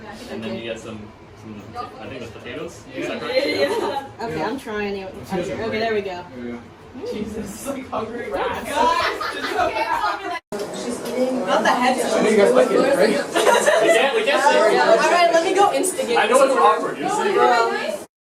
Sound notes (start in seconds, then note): 8.7 laughter; 13.0 laughter